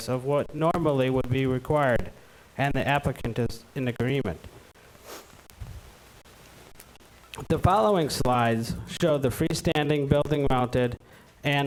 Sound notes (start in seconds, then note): none